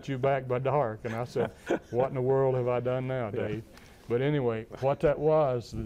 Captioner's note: laugher